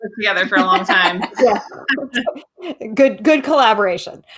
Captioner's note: laughs